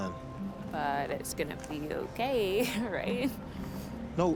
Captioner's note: laughs